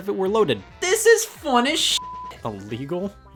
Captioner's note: beep